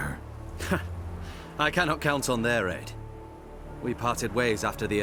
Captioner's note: scoff